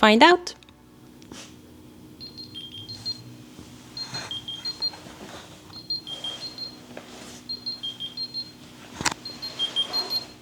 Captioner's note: beeping